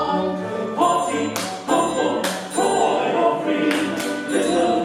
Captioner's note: clap clap; clap